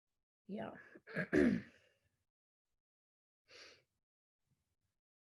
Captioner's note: clearing her throat